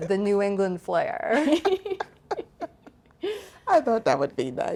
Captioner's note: group laughing